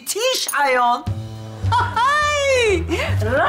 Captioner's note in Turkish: Kahkaha sesi